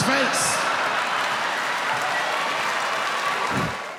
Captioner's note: audience laughing